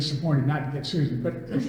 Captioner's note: all laugh